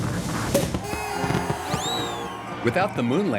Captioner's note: party horns blowing, fireworks popping